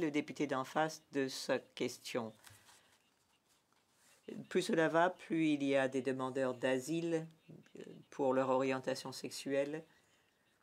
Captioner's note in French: voix de l'interprète